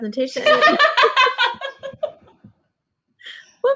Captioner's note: both laugh